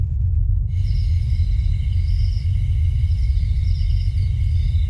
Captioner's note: crickets chirping